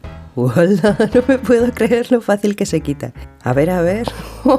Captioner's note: laughing